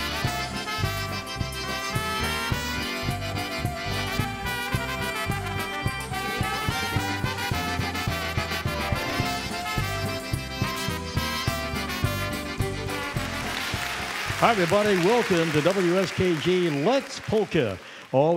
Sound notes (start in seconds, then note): 12.2 audience clapping